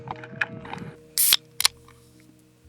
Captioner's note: can Open